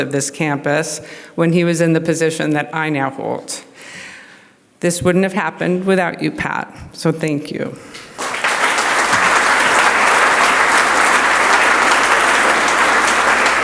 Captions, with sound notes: of this campus when he was in the position that I now hold. This wouldn't have happened without you, Pat, so thank you. (audience applauds)